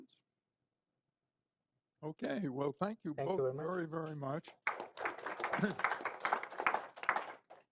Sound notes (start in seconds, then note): 4.4 applause